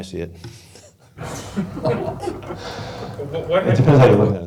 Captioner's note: laughing